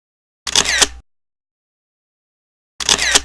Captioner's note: camera shutter clicking